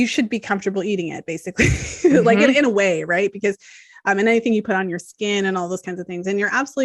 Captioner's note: laughs